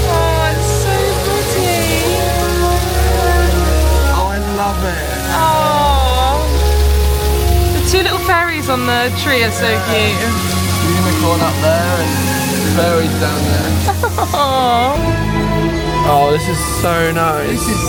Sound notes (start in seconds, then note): 3.5 bright music continues; 13.6 giggling